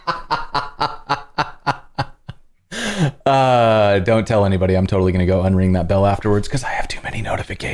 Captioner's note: laughter